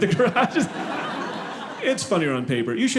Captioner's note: audience laughing